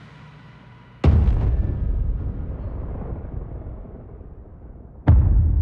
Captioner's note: dramatic sound